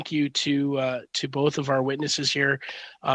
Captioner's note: speaking French